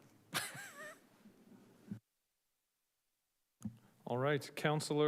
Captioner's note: chuckles